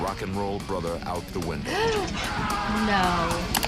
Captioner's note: gasps